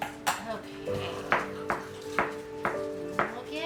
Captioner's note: chopping